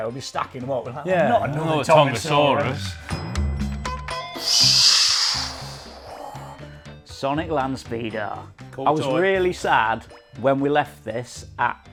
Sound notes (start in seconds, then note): 3.1 playful music continues; 4.4 swooshes